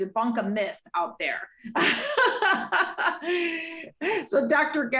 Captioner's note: laughs